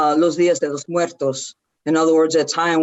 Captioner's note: speaks foreign language